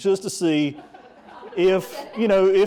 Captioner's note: audience laughing